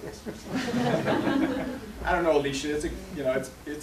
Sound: laughter

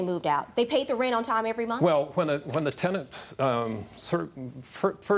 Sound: stutters

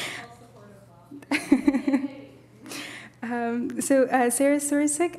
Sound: laughs

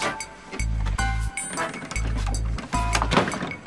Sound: rattles

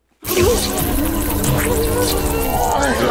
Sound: loud buzzing; explosion

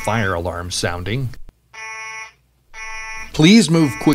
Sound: beep, beep

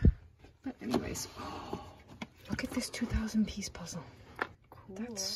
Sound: gasps

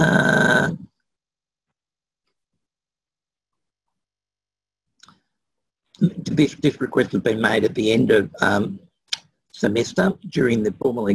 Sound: pause

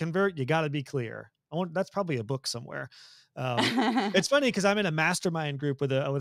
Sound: laugh

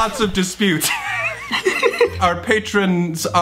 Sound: laughs

